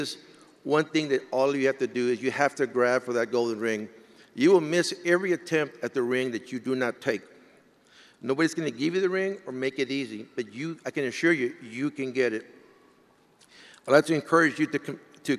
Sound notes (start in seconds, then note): none